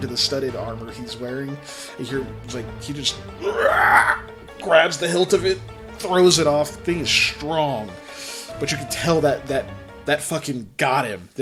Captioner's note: raaawwwr